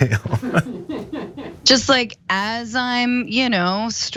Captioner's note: laugh